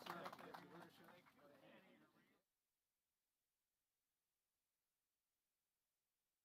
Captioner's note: applause